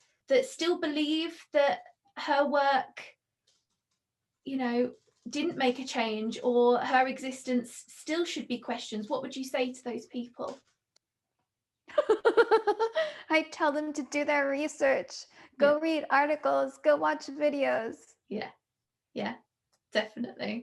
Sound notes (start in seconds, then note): 12.0 laughing